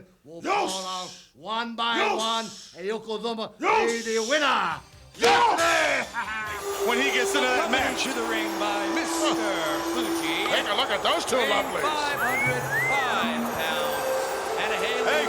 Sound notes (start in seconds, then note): 12.3 whistles